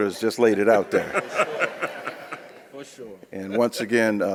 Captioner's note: audience laughs